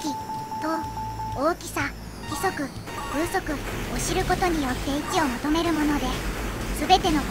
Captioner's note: wind